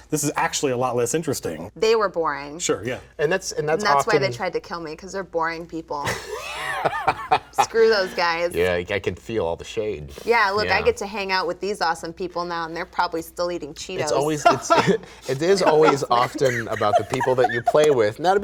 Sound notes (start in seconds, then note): 6.0 laughing; 14.0 laughing